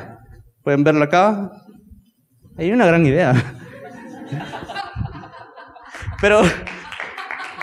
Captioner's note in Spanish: risas